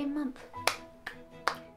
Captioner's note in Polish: klaszcze